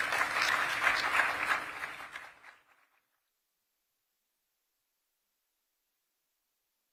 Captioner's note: applause